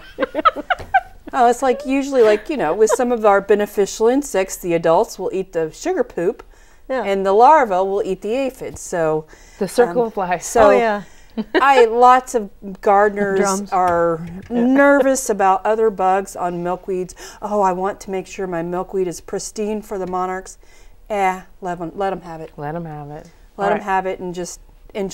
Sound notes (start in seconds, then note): 2.9 laughing